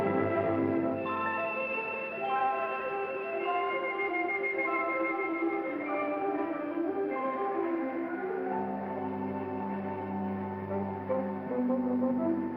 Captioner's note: whimsical music; wind blows